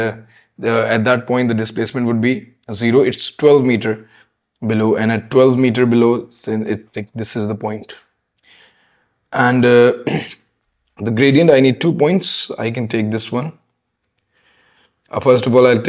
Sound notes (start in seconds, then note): 10.0 clears throat